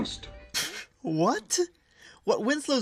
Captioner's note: laughs